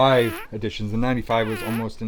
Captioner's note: fart sound